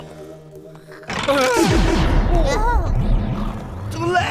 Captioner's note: Napoleon gasps